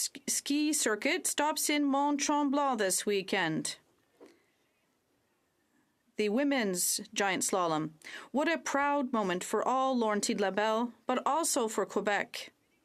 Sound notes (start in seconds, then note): 4.5 french